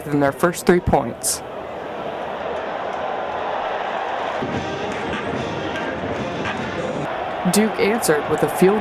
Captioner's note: crowd noise and cheering, music